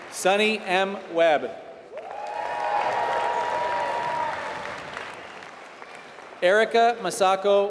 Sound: applause

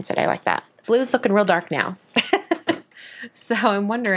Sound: laughs

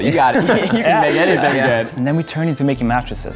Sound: laughter

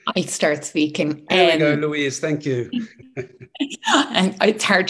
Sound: laughs

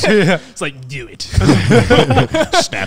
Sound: laughing

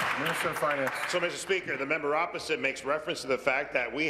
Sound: applause

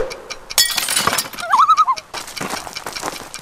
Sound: loon call

